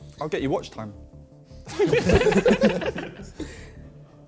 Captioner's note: men laughing